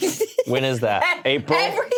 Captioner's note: laughs